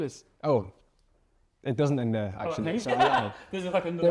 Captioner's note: laughs